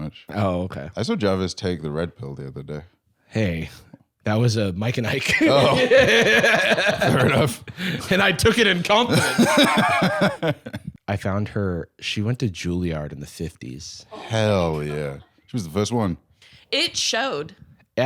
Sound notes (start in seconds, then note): 5.2 laughing